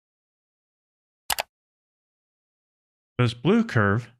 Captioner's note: mouse click